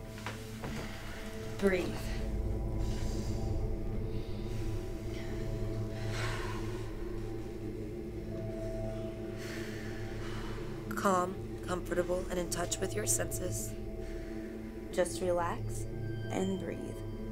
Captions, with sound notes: Breathe. (inhaling and exhaling) Calm, comfortable, and in touch with your senses. Just relax and breathe.